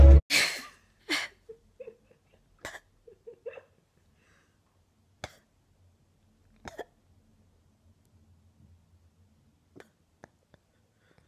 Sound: fake crying sounds

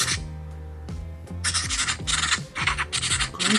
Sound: scribbling sounds

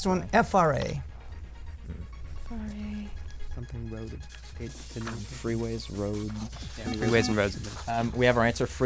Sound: wispering

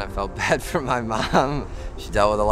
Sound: laughing

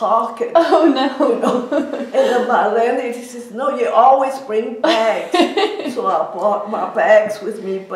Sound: laughs; laughs

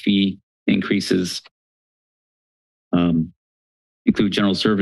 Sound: pause

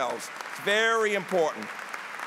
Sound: applause

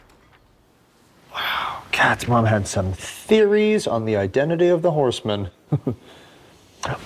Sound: chuckle

